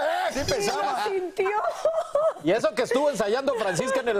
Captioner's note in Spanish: risas